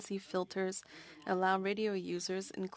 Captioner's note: speaking French